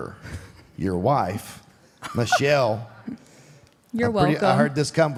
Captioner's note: Michelle laughs